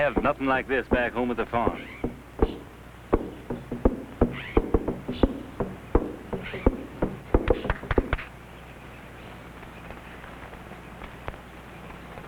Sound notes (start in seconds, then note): 3.1 drum beating; 6.9 Sandra claps